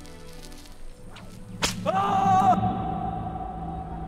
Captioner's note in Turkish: Kırbaç ve bağırma sesleri